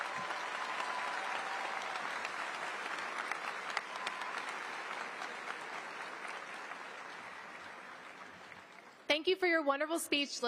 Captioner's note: applause